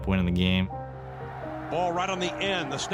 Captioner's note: crowd cheering